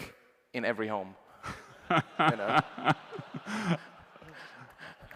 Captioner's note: laughter